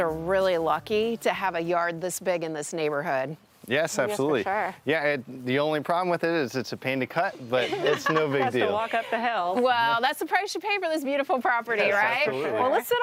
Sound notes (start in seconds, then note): 7.5 laughs